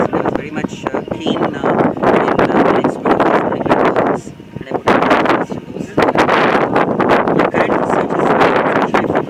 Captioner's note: wind